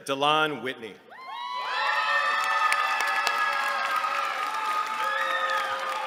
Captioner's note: cheering